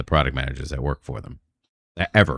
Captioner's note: uh